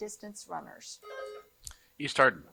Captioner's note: buzzer buzzing